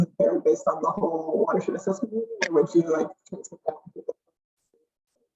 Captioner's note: broken audio